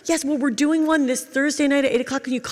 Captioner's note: none